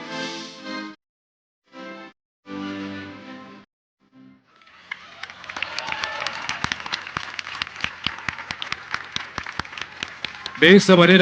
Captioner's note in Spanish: aplausos